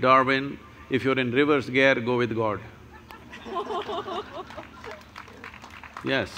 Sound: laughter/Applause

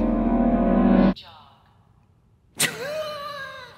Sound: automated Voice; laughing

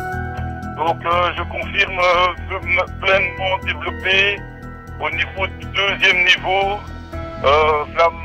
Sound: radio message

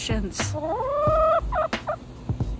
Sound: wise chicken noise

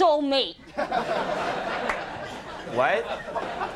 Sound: audience laughs

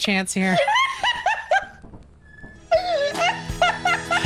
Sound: laughs; cracks up; both laugh; outro music

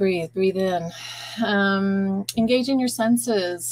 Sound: exhaling

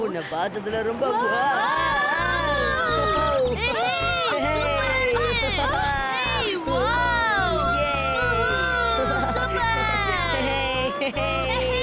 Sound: screaming

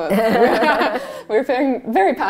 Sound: laughter

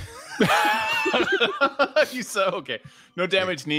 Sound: all laugh

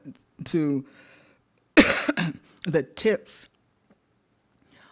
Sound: coughs

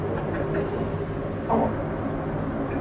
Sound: laughs

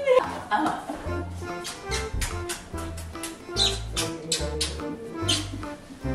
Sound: kiss sound

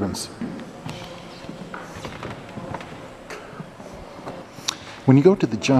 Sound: people murmuring

